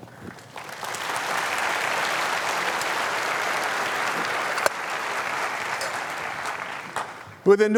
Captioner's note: laughter; applause